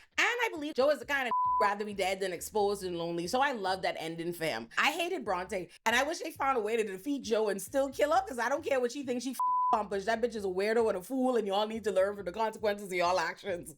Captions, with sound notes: And I believe Joe is the kind of (beep) rather be dead than exposed and lonely. So I love that ending fam. I hated Bronte and I wish they found a way to defeat Joe and still kill her because I don't care what she thinks she (beep) That bitch is a weirdo and a fool and y'all need to learn from the consequences of your all actions.